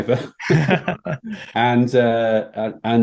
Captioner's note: speakers laughing